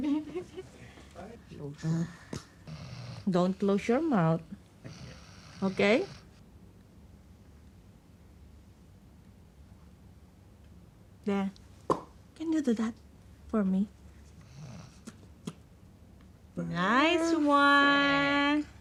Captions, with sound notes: - Don't close your mouth. OK? There. (SMACKS LIPS) Can you do that for me? Nice one! - Perfect.